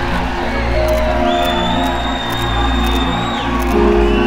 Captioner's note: Camera Clicking